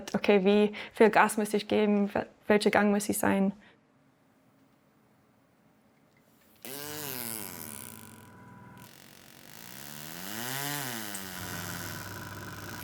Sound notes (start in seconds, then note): 6.6 powerful whirring; 7.4 persistent whirring; 11.4 howling whirring